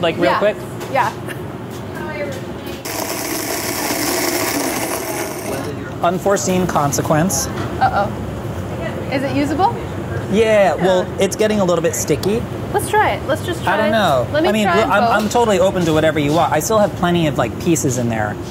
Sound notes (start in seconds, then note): 2.8 processor whirring